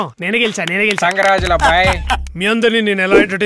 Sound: laughs

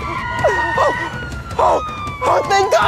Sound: sound of Police siren

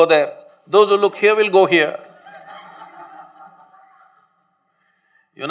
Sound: laughter

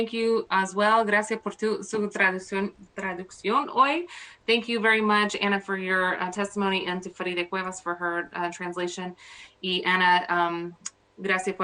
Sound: speaking spanish

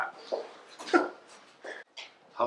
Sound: laughs

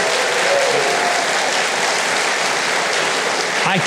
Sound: audience applauding

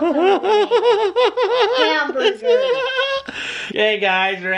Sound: laughs

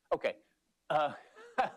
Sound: laughter

